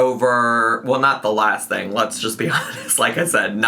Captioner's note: laughs